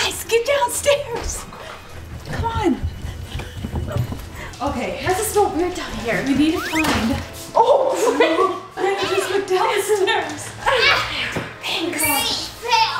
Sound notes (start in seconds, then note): 5.9 slipping